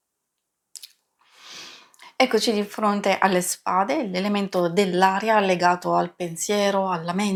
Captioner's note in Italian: sbuffare